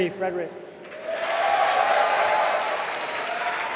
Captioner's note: applause